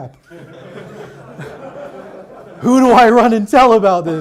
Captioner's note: audience laughs